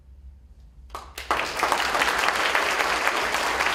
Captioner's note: applause